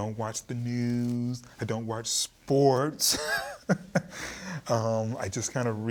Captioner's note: chuckling